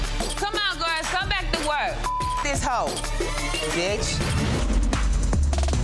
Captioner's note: beep; slow hip hop music